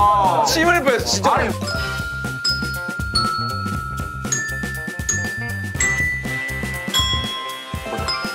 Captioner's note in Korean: 문제 출제 벨소리; 정답 벨소리